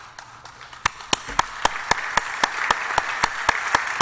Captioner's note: applause